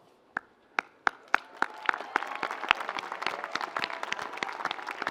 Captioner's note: audience applauds